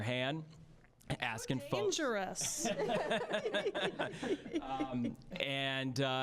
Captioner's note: all laughing